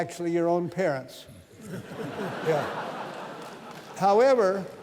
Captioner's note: laughter